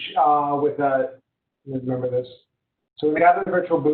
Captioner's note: murmur